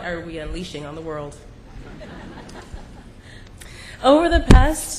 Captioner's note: laughter